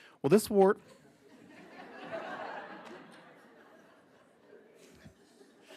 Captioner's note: attendees laughing